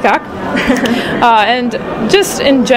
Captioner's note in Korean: 웃음